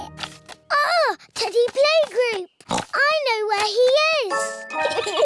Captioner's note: oinks; both giggle